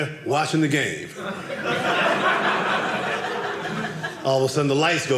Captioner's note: audience laughing